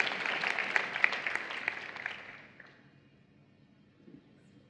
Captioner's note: applause